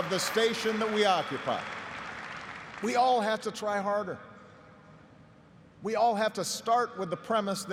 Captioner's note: applause